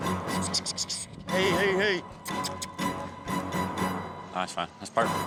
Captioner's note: makes squeaky sounds